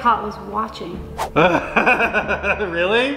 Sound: laughter

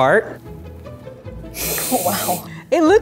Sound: sniffs

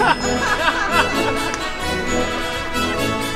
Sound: laughter

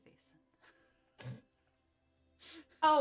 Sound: laughter

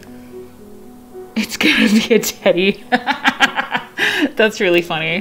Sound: laughs

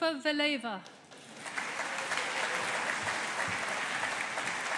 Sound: audience applauding

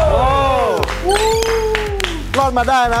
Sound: applauding

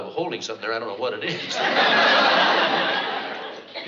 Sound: chuckles

